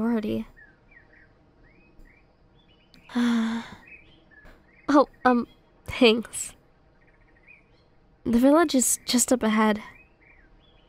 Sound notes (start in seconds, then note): 3.1 sigh